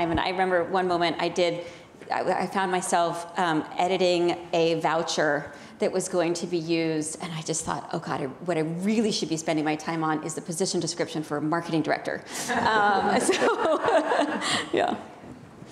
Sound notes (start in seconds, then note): 12.7 audience laughing; 14.4 laughs